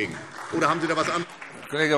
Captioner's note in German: Beifall SPD